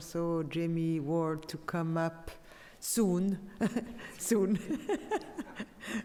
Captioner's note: laughs